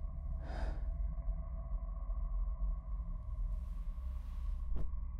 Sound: Madeline exhaling sharply

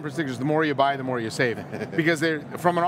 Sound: laughing

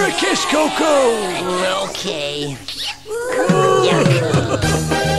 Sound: cheering; kissing

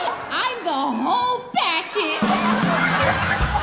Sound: audience laughing

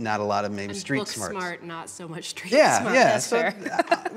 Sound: laughs

